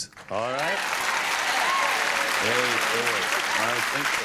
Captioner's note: applause